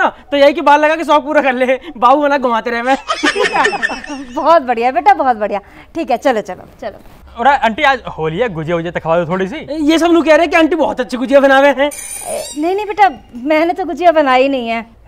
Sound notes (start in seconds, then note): 3.0 laughing